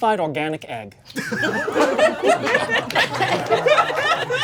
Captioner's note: audience laughing